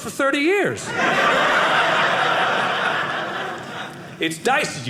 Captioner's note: audience laughing